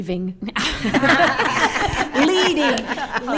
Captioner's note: attendees laughing